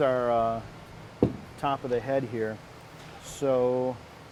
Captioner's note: thump